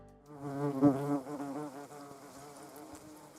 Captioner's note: wasp buzzing